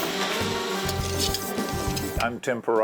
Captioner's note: equipment whirring; measuring tool clacking